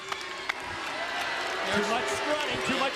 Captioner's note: crowd boos